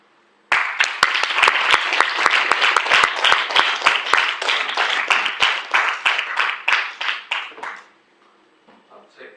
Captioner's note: applause